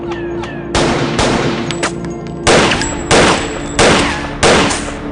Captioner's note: guns firing